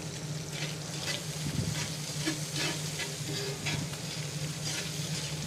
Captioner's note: utensil scraping